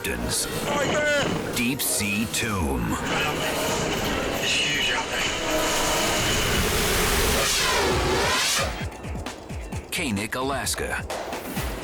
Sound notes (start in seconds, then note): 7.0 air whooshes; 11.0 dramatic music